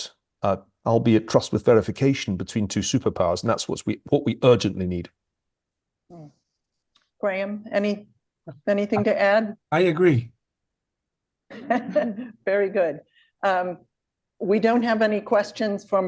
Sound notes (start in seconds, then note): 11.5 laughter